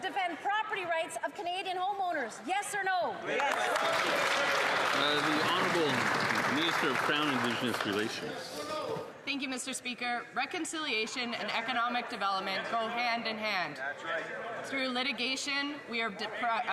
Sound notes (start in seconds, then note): 6.9 some Applause